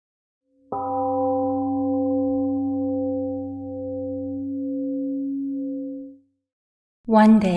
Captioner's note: temple gong rings and fades